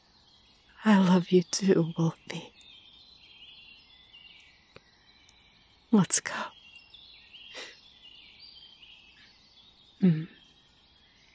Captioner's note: laughs happily